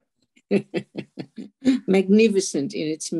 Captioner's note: laughing